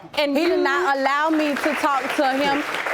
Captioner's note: audience applauding